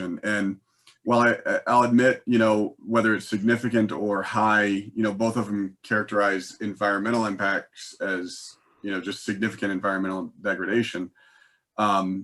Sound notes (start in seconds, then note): none